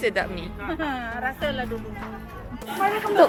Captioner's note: haha